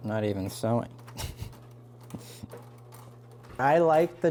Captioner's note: laughing